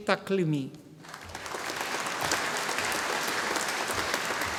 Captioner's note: audience applauding